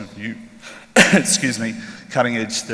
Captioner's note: coughs